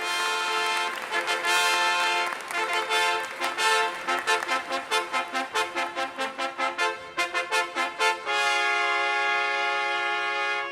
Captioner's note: applause